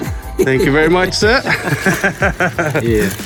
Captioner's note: laughs